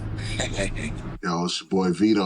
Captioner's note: laughing